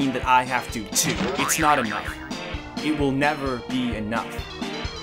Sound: another Boing SFX

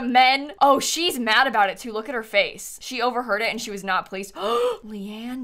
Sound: gasps

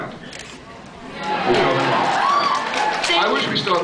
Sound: cheers

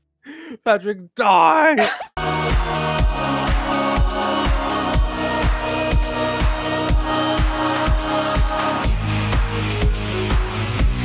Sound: applause

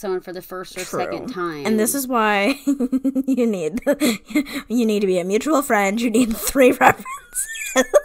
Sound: laughing

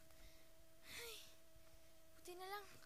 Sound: sighs

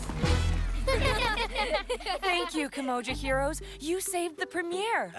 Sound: laughter

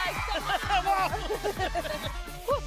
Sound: laughing

